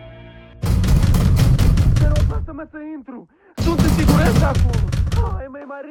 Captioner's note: banging on door; speaking in foreign language